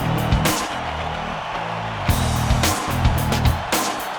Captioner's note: crowd cheers